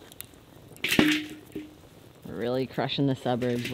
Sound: fire crackling; wood banging

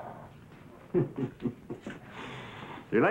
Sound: laughing

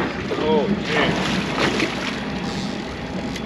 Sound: fish splashing; reel cranking

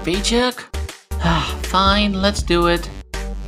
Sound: sigh

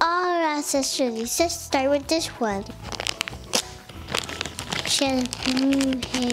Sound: crinkles

